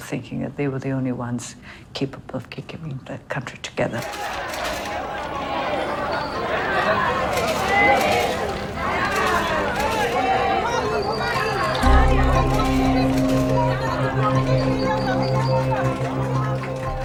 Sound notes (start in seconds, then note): 4.0 sounds of photos being taken